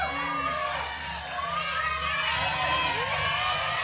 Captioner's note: cheers and applause; audience shouting numbers